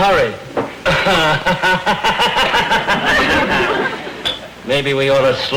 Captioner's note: laughs